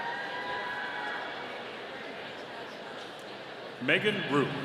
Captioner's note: audience cheering